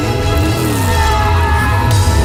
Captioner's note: all cars Skrrrting